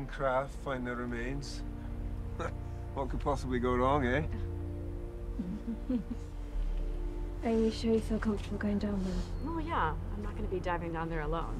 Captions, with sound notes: Find the remains. What could possibly go wrong, hey? [chuckles] Are you sure you feel comfortable going down there? Oh, yeah. I'm not going to be diving down there alone.